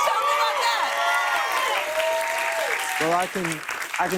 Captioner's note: cheers and applause